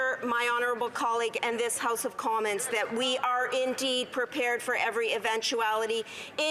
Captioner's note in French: voix de l'interprète